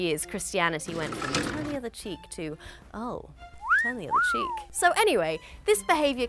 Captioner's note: whistle